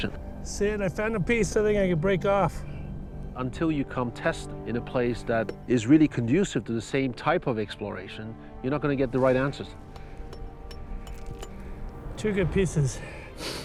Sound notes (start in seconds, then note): 9.8 light hammering